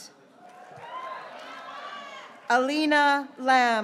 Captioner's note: graduates cheering